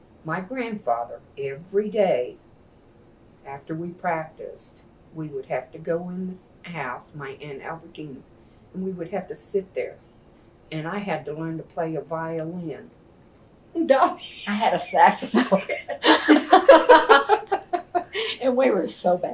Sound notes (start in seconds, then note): 14.1 laughs; 15.3 laughter